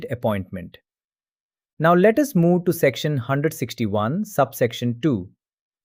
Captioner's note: thoughtful